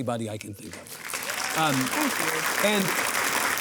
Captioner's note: audience applauding